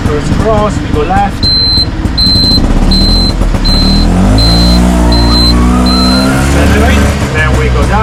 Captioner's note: indicator beep sound